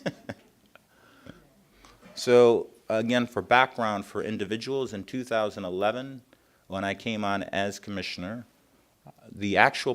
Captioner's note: laughter